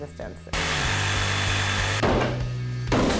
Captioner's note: saw whirring; hammer banging